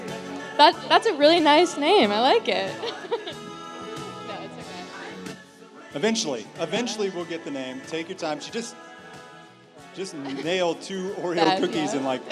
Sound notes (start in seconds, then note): 2.7 contestant laughs